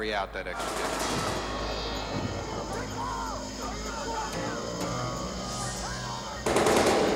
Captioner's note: guns firing; screaming